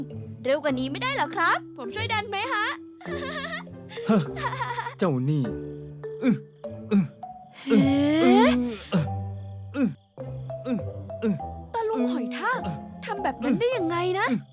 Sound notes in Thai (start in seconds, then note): 3.9 เสียงซันนี่หัวเราะ; 5.8 เสียงฮึบ ฮึบ